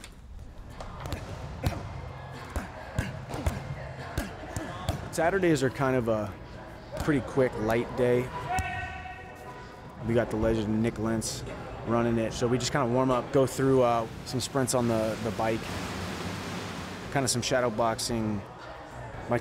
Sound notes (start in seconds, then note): 1.0 thumping